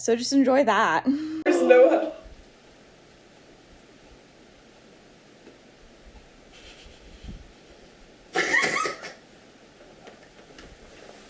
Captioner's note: gasp and shocked silence; laugh